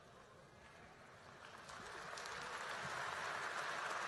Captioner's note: applause